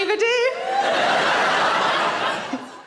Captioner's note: audience laughing